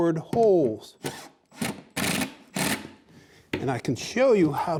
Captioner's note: drilling